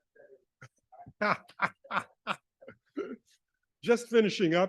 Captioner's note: laughing